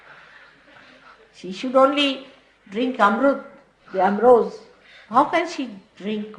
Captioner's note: laughter